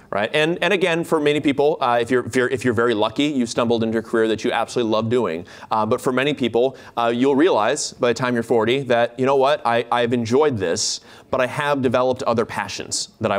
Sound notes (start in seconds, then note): none